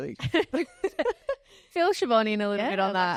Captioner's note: laugh